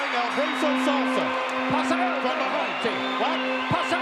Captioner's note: bell ringing; Lord Alfred speaking in foreign language